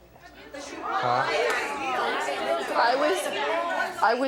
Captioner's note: audience chatters